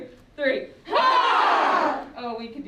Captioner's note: all groaning